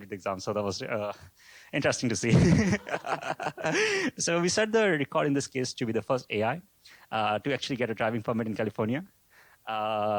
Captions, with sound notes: the exam. So that was interesting to see. [LAUGHS] So we set the record in this case to be the first AI to actually get a driving permit in California.